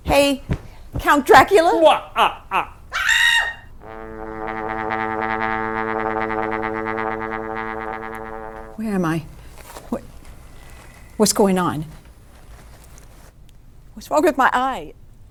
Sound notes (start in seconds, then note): 1.8 Marco evilly laughs; 2.9 Samantha screams; 3.8 horn resonating